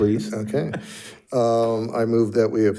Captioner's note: member laughs